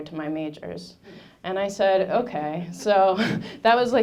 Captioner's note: laughing